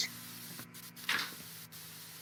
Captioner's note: fridge door opens